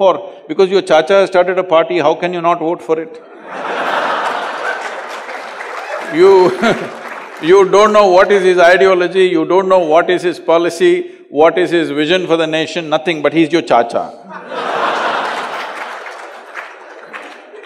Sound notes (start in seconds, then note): 3.2 laughter; 6.2 laughs; 14.2 laughter